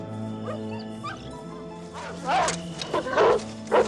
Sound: dogs barking

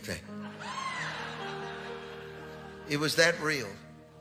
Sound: congregation laughing

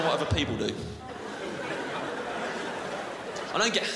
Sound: crowd laughs

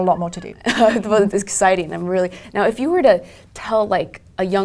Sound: laugh

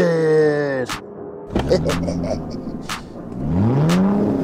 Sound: laughing

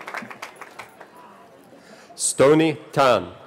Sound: cheering

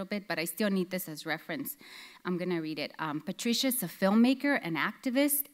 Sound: none

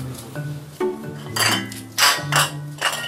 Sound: clatters

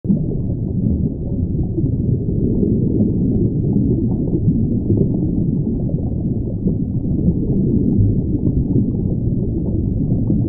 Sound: relaxing Underwater Sounds

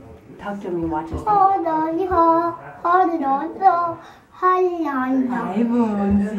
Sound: in singsong

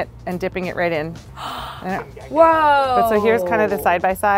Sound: gasps

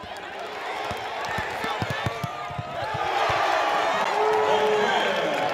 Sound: audience cheers

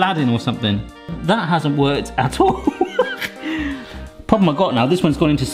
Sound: laughs

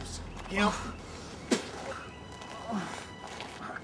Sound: spits

